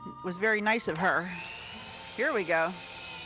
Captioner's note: pulsating sound